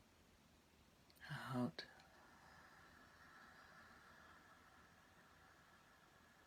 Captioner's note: exhaling